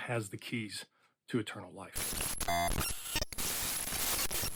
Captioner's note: glitching noises